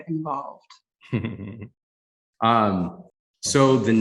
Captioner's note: chuckles